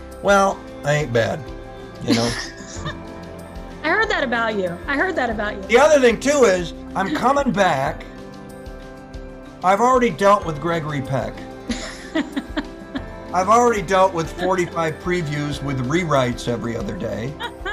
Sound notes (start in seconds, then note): 2.0 both laugh; 11.6 begins laughing